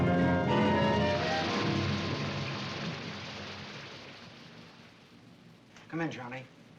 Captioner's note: suspenseful music; rain pattering